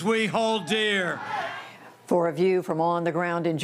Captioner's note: cheering and applause